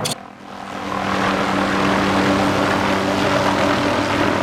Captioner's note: helicopter propelling